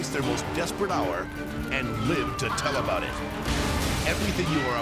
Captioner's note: person screaming